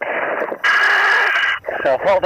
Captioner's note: breathing heavily